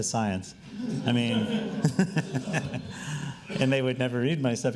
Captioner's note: laughing